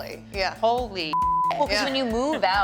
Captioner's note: beep